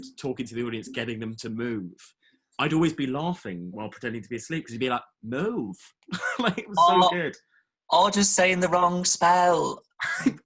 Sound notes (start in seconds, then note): 6.1 laughs